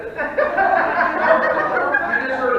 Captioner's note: audience laughing